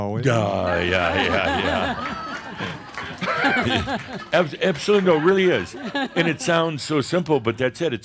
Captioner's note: laughter